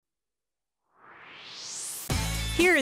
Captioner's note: swoosh